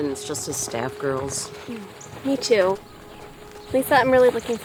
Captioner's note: sighs